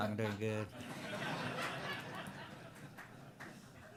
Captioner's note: laughter